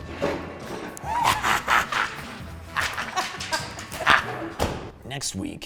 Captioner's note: laugh